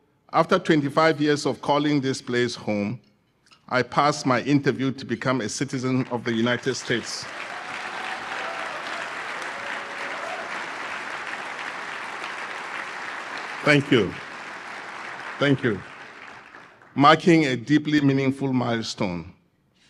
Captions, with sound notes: after 25 years of calling this place home, I passed my interview to become a citizen of the United States. [APPLAUSE] Thank you. Marking a deeply meaningful milestone.